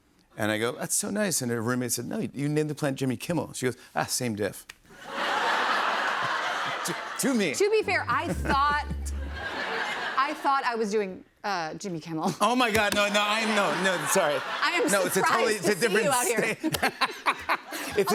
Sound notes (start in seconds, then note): 5.0 laughter